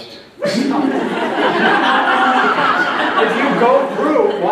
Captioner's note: loud laughter